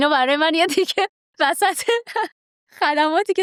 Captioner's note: laughs